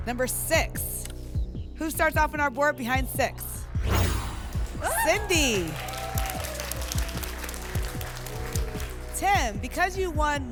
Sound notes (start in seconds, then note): 3.7 whoosh; 6.1 applause and cheering